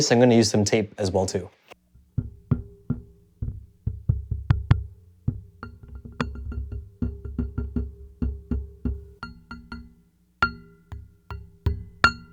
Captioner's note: tapping